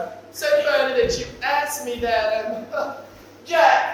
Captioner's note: none